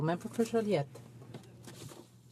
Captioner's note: speaking French